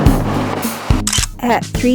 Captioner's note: photo Click